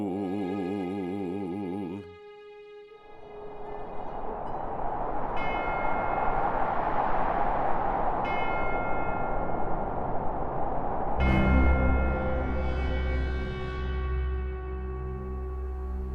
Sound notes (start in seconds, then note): 3.5 bell chiming; 3.5 wind gusting; 11.2 foreboding orchestral music